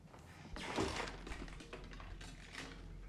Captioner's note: clattering